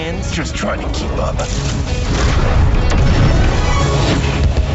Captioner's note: powers whoosh